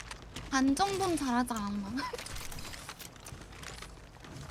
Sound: laughs

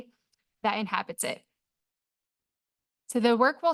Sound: pause

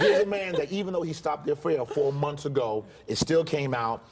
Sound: laughter

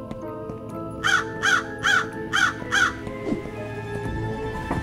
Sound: footsteps pattering; bird squawking

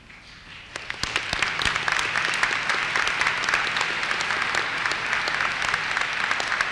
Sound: applause

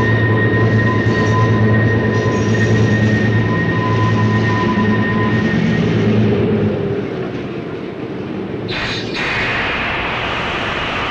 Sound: sound of the train moving

